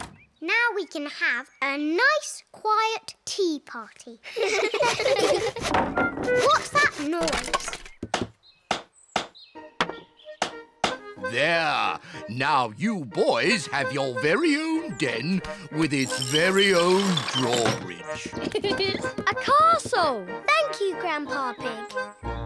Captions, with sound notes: Now we can have a nice, quiet tea party. -(ALL LAUGH) -(CLATTERING) What's that noise? There! Now you boys have your very own den with its very own drawbridge. -A castle! -Thank you, Grandpa Pig.